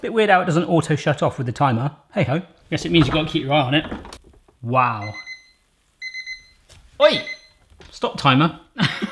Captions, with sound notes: Bit weird how it doesn't auto shut off with the timer. Hey ho. I guess it means you gotta keep your eye on it. Wow. (beeping) Oy, stop timer.